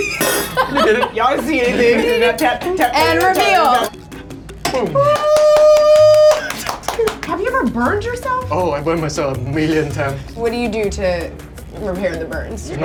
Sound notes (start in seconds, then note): 0.0 laughing; 2.2 metal clanking; 2.3 nails tapping; 4.9 cheering